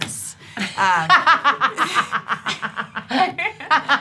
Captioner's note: laughing